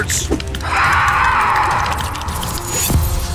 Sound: snarling

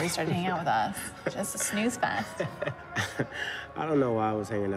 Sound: Rufus laughs

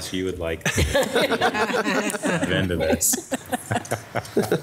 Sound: laughs

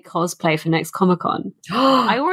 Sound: gasps

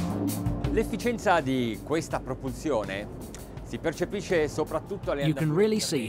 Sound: relaxed ensemble music; speaking foreign language

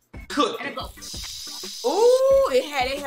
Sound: imitates sizzling

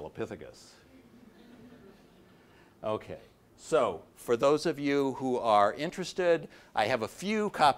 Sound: audience laughing

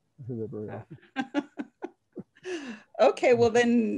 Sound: laughing

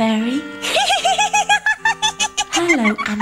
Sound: Brozac the GiggleFairy laughs uncontrollably

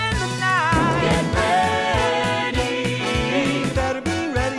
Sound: thunder

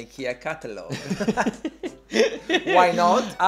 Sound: laughs

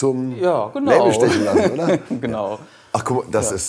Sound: laughing

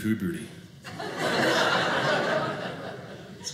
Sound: audience laughing

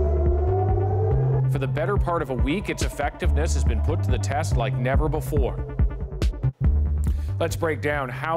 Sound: sirens

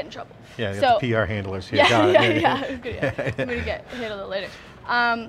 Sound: they laugh

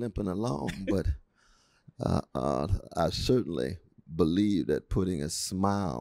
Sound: laughter

